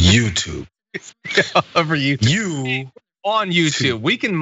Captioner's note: laugh